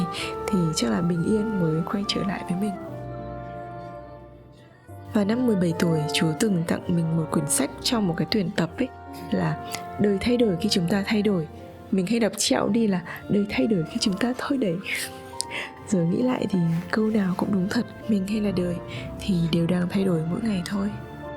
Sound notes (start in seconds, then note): 13.3 in Vietnamese